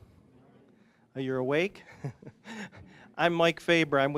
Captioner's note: chuckling